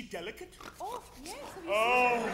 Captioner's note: Constance snorts